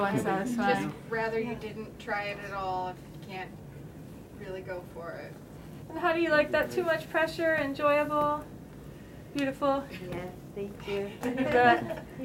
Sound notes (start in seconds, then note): 11.2 laughter